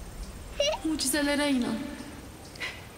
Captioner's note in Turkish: Gülüyor